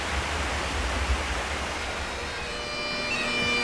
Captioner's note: woodland sounds, with running stream; bagpipe music; woodland sounds, with running stream